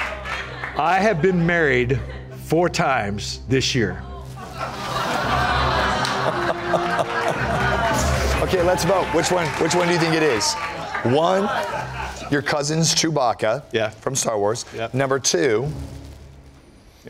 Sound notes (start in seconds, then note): 7.0 laughter